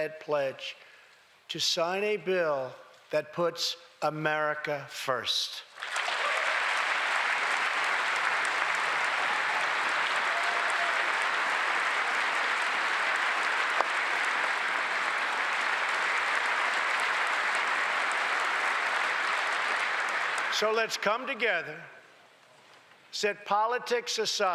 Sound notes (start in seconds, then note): 10.9 applause